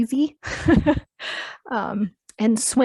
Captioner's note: laughing